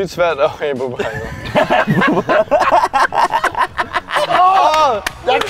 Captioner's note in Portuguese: Risada